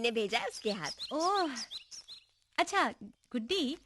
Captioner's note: birds - Chirping